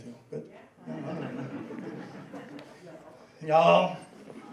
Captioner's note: laughing